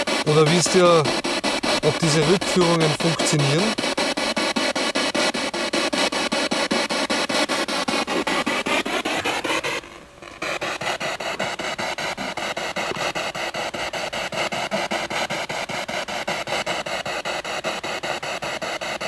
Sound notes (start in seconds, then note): 5.1 radio noise from the spirit box